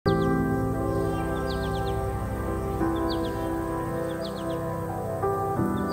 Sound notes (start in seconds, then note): 0.0 birds chirping; 0.0 gentle serene music